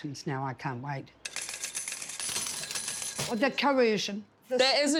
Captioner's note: cash register chiming